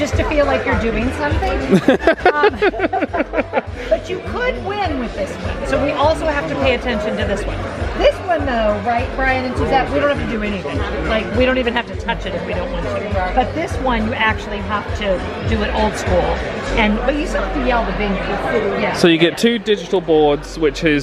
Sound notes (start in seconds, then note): 1.7 laughs